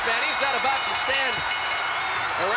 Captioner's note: bell rings